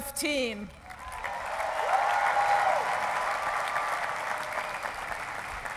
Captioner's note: cheering and applause